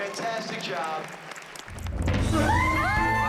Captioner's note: applause